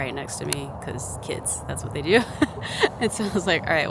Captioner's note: chuckles